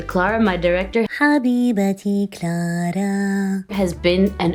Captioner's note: foreign language